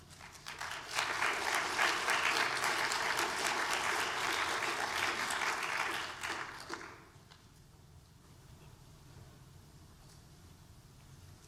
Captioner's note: applause